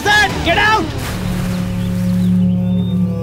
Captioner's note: Water splashing